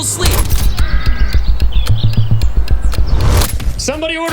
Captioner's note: dramatic clock ticking